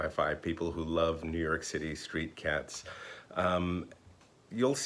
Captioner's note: none